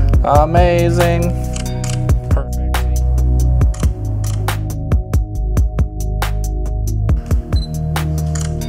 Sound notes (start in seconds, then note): 1.5 upbeat music; 4.2 camera clicks